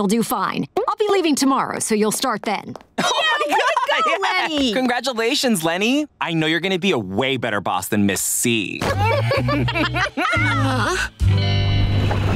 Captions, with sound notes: I'll be leaving tomorrow, so you'll start then. [cheering] Congratulations, Leni, I know you're gonna be a way better boss than Ms. C. [laughing] [groaning]